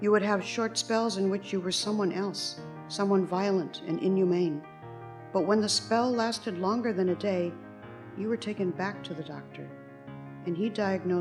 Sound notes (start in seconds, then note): none